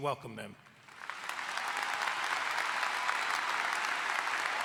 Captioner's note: all applauding